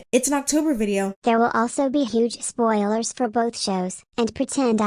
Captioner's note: robot voice